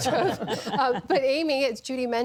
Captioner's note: laughter